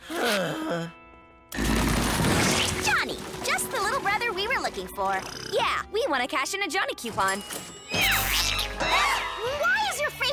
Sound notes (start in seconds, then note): 4.8 groans